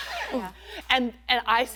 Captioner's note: laugher